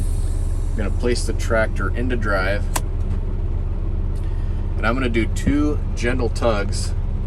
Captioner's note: gear clicks